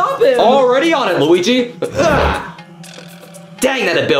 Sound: grunting

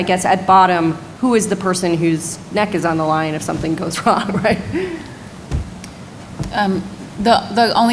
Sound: laughs

